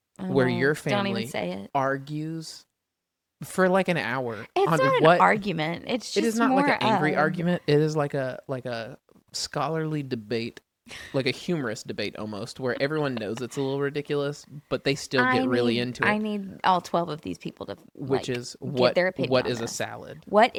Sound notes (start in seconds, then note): 10.6 laughs